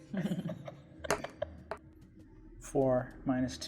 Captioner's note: laughing; die rolling